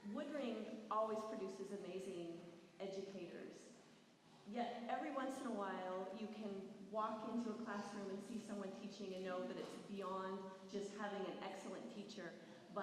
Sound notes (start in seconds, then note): none